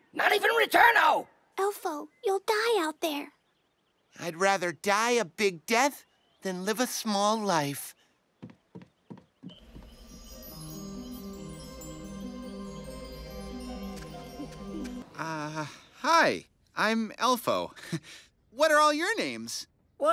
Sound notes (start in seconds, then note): 8.4 footsteps click; 9.6 mysterious music; 17.5 laughs